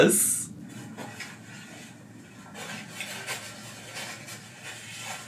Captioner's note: paper napkins rustling